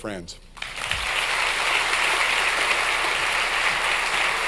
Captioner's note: audience applauds